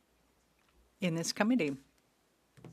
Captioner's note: speaking French